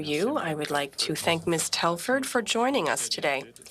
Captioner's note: speaking French